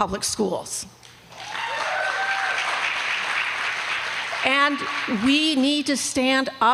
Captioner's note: applause